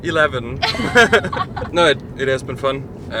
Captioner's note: all laugh